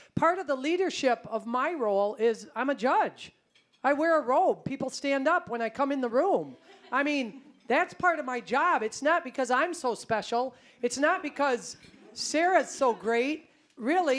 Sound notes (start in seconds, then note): 6.7 audience laughing